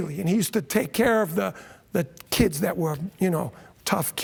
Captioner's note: none